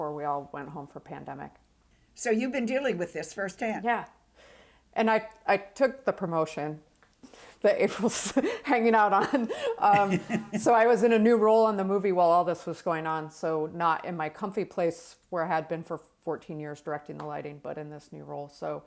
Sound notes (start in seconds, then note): 9.1 laughs